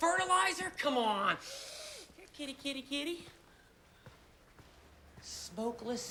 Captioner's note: sniffs